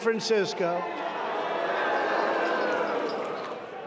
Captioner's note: crowd booing